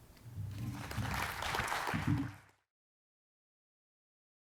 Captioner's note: attendees applauds